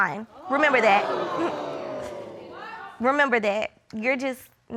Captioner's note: audience exclaiming